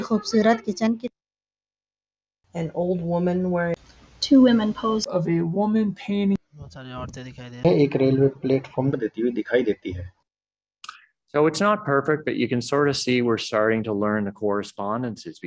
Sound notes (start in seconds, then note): 6.2 speaking hindi